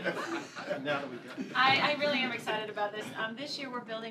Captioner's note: laughter